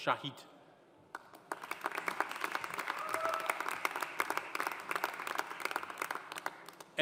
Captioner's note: audience applauding; audience cheering